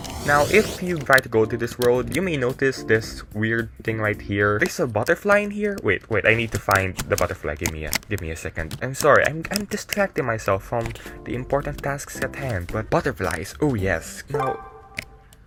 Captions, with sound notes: Now, if you try to go to this world, you may notice this weird thing right here... There's a butterfly in here? Wait, wait, I need to find the butterfly, gimme a second... I'm sorry, I'm distracting myself from the important tasks at hand! But...butterflies! Oh yes. [Player join sound]